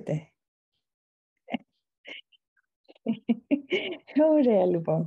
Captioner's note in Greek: Γέλια